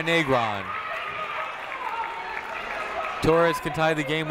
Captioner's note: crowd clapping